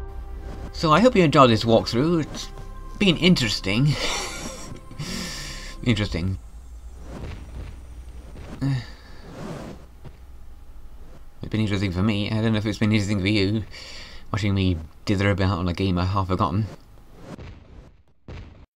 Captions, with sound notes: So, I hope you enjoyed this walkthrough! It's... been interesting... *laughs* Interesting... *sighs* It's been interesting for ME... I dunno if it's been interesting for YOU... Watching me dither about on a game I'd half-forgotten...